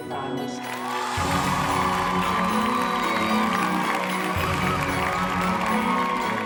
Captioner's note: audience applauding and whooping